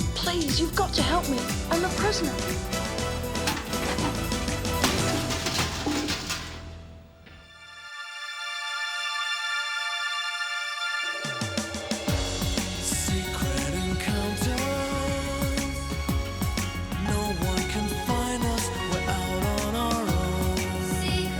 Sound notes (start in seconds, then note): 4.9 bucket clanging; 7.4 upbeat music